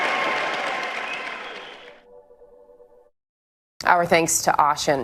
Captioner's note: cheers and applause